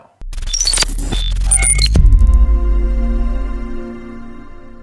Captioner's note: electronic sounds